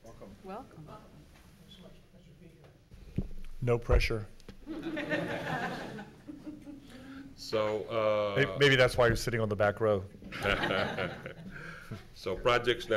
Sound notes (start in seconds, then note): 4.7 laughing; 10.3 laughing